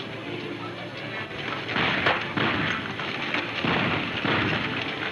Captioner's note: gunfire pops